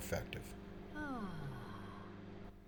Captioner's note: person sighing relief